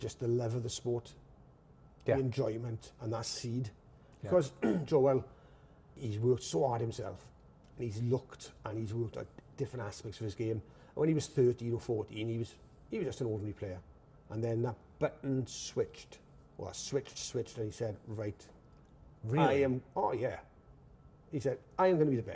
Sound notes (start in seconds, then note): 4.5 clears throat